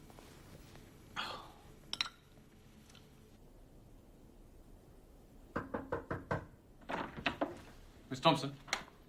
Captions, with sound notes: (DI Amer sighs in disgust) (knocking on door) - Miss Thompson?